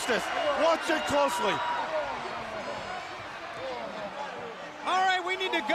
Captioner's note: crowd chatter